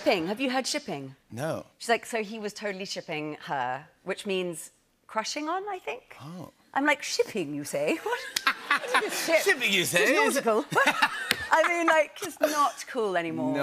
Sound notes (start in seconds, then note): 10.2 laughter